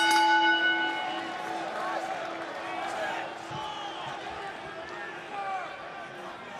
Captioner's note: crowd cheering; bell ringing